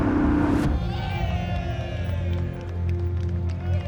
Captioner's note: cheering